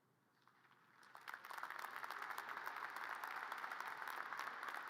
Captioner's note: audience applause